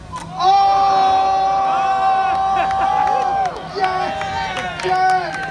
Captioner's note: crowd cheers!